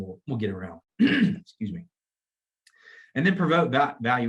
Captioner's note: clears throat